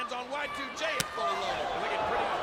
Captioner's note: hand slaps